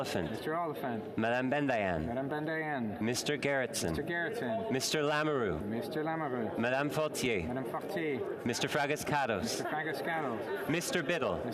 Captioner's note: calling of recorded vote